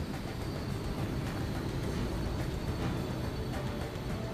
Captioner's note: plane roaring